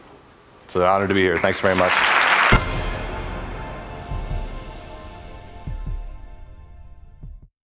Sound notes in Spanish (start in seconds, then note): 1.0 Aplausos